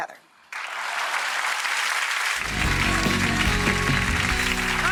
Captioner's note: audience applause